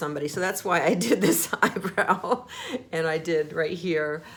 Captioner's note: laughs